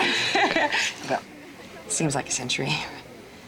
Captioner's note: laughs